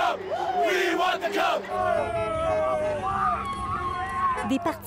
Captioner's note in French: cris et klaxons